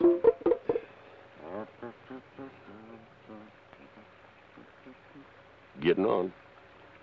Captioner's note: Carney hums melodically